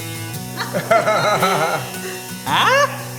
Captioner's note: laughter